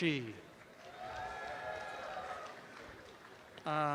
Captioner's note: audience cheering